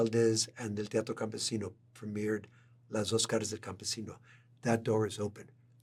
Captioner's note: spanish